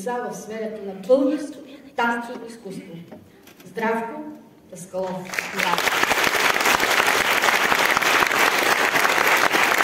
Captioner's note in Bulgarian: аплодисменти